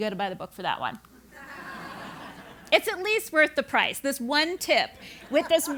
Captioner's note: laugh